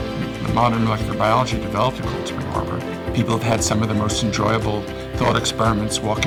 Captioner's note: none